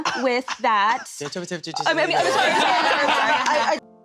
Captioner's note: titters and interrupts her from this depressing spiral of word vomit